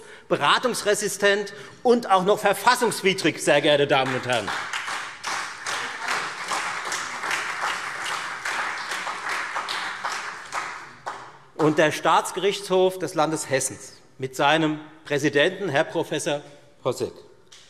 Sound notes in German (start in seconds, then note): 3.9 Beifall Freie Demokraten und SPD